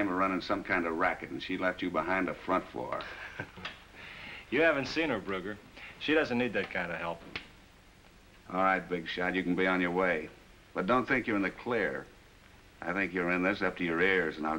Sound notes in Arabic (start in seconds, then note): 2.9 ضحك